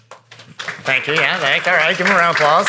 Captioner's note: audience applauding